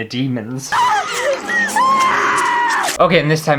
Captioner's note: screaming